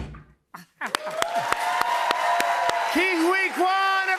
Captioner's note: cheers and applause